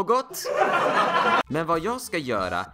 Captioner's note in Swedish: publik skratt